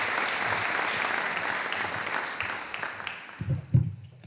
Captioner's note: audience applauding